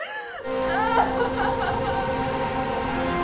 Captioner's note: crying; dramatic music